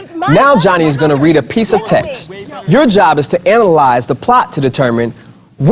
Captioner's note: arguing